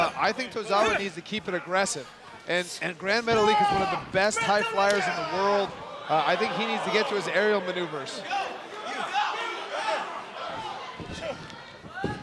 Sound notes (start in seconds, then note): 8.8 crowd shouting